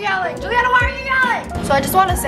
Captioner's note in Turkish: bağırarak